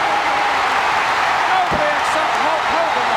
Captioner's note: audience cheering